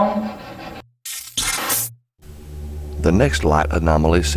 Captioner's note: electronic effect